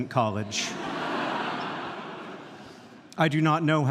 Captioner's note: audience laughing